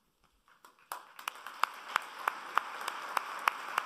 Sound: applauding

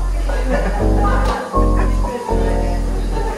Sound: people laughing

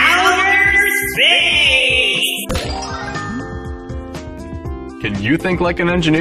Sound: echo

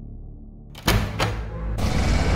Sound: door opening sound

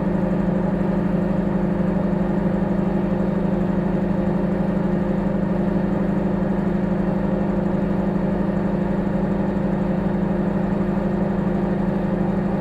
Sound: microwave humming

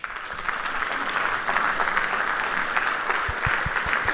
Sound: audience applauds

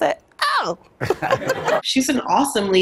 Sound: audience laughs

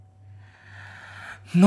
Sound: inhales

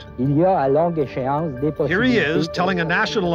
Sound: speaking French

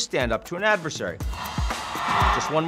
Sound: audience cheering

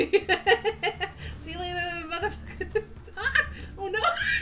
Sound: laughs

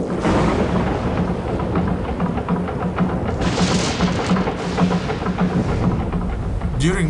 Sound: thunder crashes

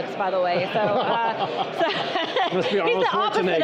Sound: group laughing

